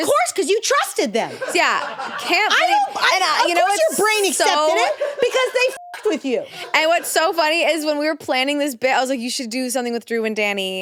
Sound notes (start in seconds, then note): 5.7 beep